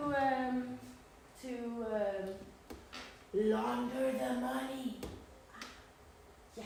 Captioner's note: whisper